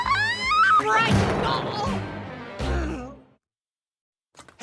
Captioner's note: groan